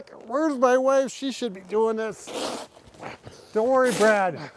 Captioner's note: shovel scraping